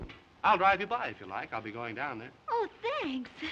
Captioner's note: none